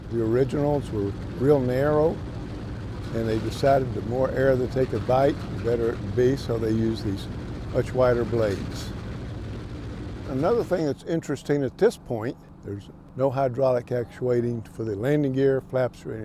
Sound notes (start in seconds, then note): 8.8 plane propeller whooshing